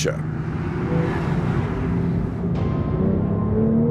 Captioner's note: cars revving